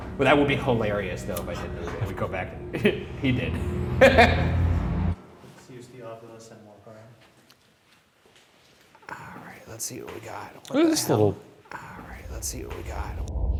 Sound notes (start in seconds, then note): 4.1 laughs